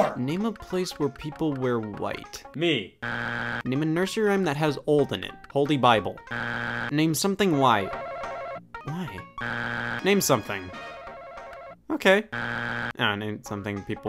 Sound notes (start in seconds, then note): 3.0 buzzer beeps; 6.2 buzzer beeps; 9.3 buzzer beeps; 9.3 buzzer rings; 12.3 buzzer beeps